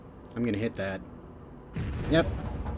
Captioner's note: boom